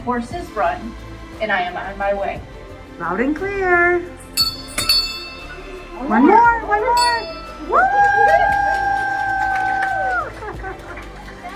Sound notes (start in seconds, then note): 4.2 bell rings; 7.5 cheers